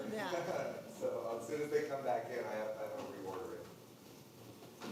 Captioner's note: laughs